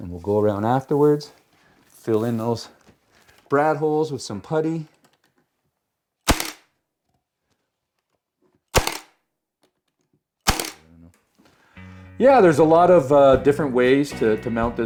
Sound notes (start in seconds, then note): 6.2 Sounds of Brad Gun